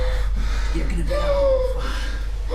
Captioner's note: Keith hyperventilating